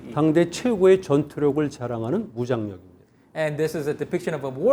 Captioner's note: speaking in Korean